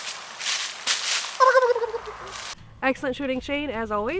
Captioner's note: gobbles like turkey